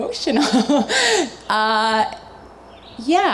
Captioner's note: laughs